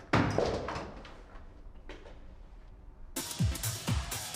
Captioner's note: objects clattering in background